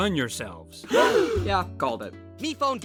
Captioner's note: all gasp